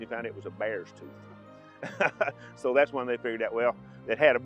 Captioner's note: chuckles